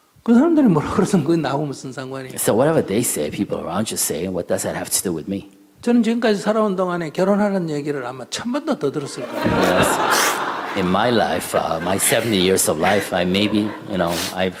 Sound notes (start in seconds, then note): 9.0 /Questioner/Audience Laughter